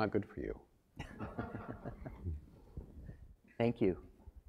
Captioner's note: laugh